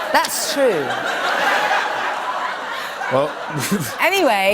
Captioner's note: laughter